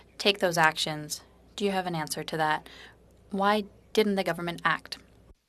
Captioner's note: speaking French